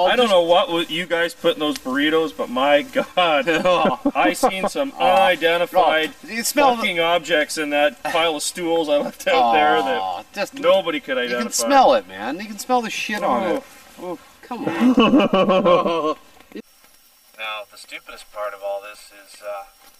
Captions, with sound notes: I don't know what would you guys put in those burritos, but my god, I've seen some unidentified... Fucking objects in that pile of stool I left out there that nobody could identify. I can smell it man. You can smell the shit on that. Come on. [Laughter] Well the stupidest part of all this, is uh